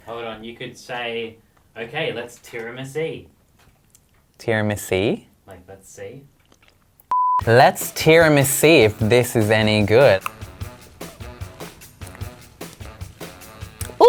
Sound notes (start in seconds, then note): 7.1 screen beeps; 10.5 upbeat music